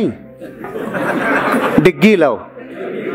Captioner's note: laughing